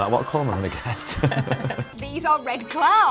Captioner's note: laughing